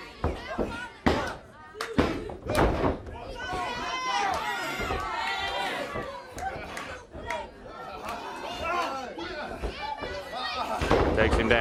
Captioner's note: crowd chatter